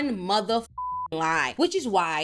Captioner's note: beep